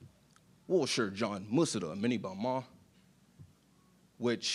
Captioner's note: speaking in Chinese